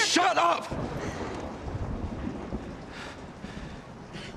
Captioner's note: thunder rumbling